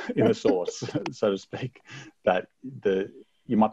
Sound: chuckles

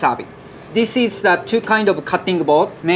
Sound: text chiming

